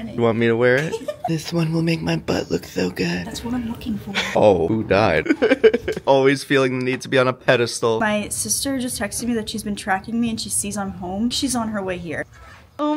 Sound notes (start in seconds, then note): 0.8 laughs; 5.2 laughs